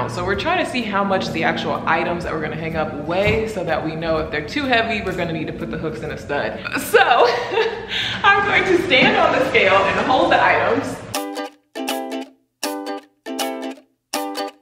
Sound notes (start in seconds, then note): 6.6 laughs; 12.6 lighthearted music